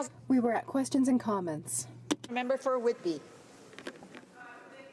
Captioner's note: speaking French